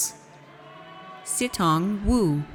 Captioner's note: audience cheers